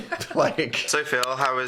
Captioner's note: Phil laughs